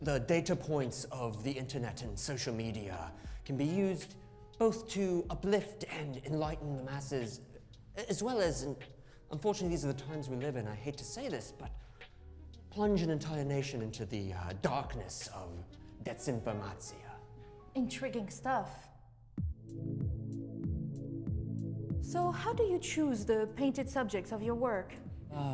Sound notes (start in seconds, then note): 15.5 speaks foreign language; 20.1 gentle music